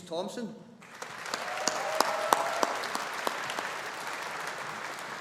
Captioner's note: audience applauding